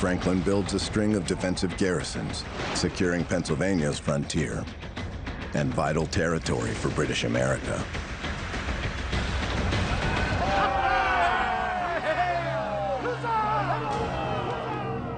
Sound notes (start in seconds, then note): 8.5 dramatic music; 9.6 crowd cheering